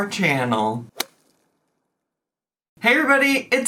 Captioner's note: golf club thwacking